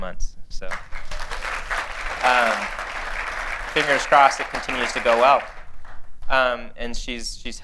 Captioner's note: applause